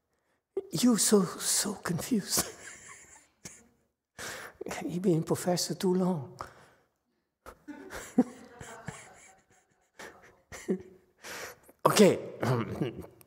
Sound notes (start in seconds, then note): 7.5 laughs